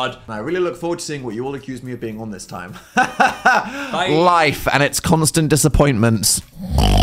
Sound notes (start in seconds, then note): 2.8 laughs; 6.6 snort